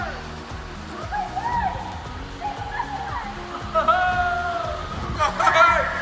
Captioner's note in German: Schrei